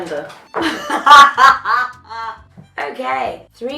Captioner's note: laughs